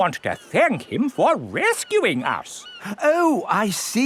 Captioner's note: none